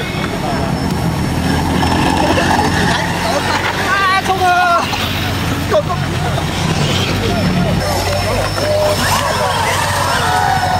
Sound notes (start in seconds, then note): 3.4 speaking in foreign language; 8.3 motor hums